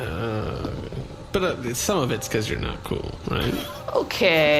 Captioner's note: muttering